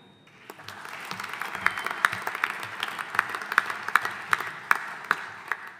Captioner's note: audience applauding